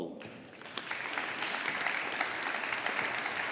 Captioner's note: audience applauding